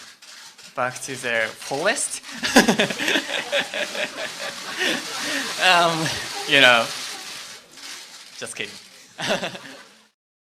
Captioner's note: laugh